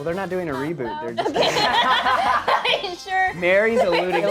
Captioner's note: laughing